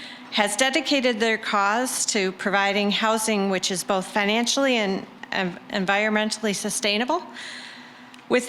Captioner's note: none